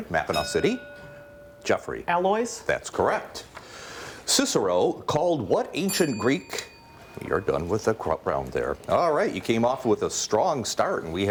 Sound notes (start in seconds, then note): 0.3 bell rings; 5.8 bell rings